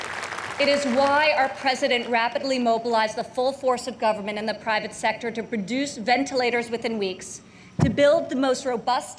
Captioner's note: applause